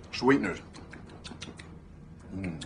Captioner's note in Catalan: Sons de mastegar